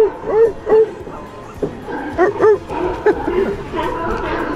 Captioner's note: imitates sea lion calls